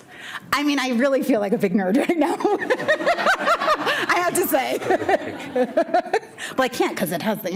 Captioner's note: laughs